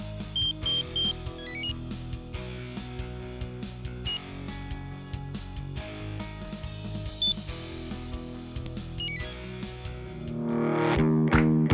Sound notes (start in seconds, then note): 0.3 three short beeps; 1.4 enter chime; 9.0 exit chime